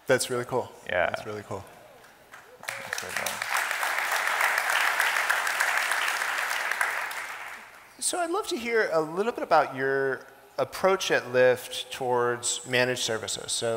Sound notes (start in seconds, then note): 2.5 audience applauding